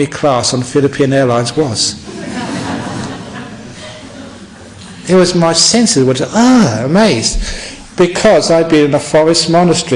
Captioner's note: laughter